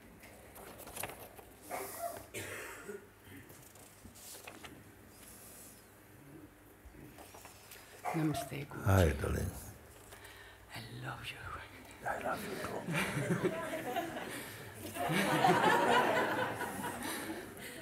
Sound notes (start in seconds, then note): 11.9 whispering; 15.0 laughter